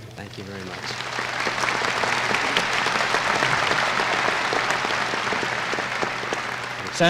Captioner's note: applause